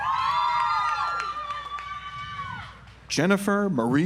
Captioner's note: audience applauds